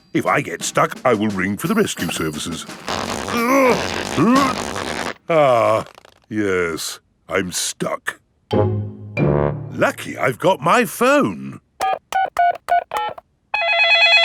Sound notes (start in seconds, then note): 3.3 grunting; 11.8 dialing; 13.5 cell phone ringing